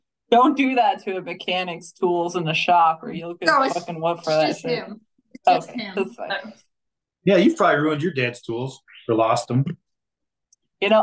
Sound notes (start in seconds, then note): 3.8 faintly speaking